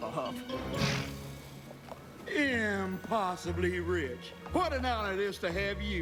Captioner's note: snort!